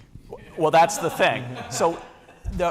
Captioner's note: laughter